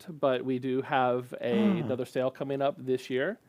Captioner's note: gasps